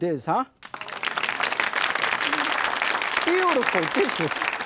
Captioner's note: audience applauds